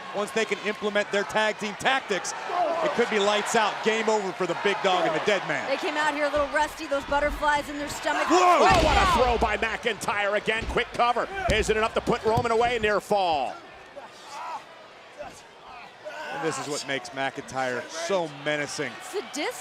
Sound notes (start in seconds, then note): 14.5 Roman groaning